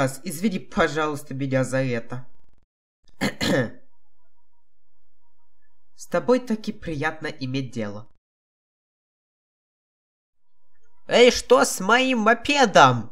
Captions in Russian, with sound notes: Извини, пожалуйста, меня за это! *Кхе-Кхе* С тобой таки приятно иметь дело... Эй, что с моим мопедом!?